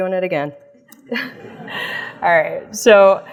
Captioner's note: audience laughs